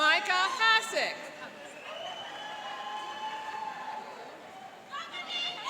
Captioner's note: cheering and applauding